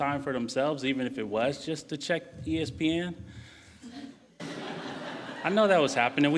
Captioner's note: laughing